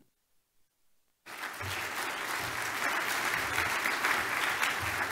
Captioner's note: audience applause